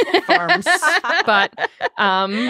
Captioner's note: group laughing